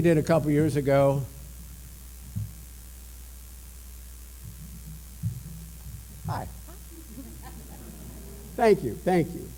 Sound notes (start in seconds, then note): 6.8 laughter